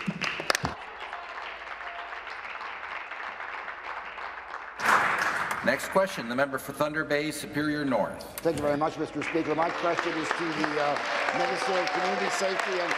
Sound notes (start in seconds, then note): 6.7 applause